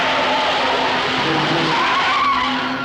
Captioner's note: tires skidding